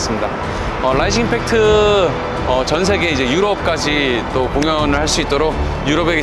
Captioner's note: rising impact